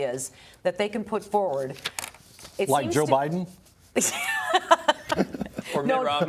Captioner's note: laughter